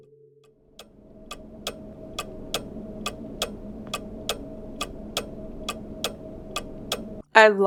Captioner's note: ticking clocks